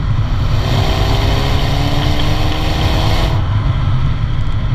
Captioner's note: engine revving